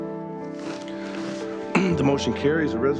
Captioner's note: clears throat